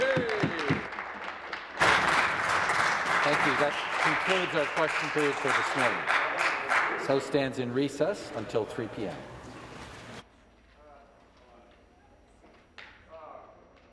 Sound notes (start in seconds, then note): 5.5 applause